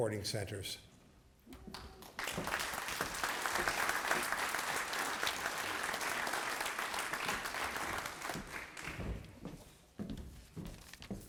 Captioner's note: applause